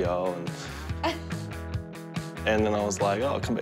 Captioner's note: laughs